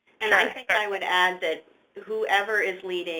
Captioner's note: voiceover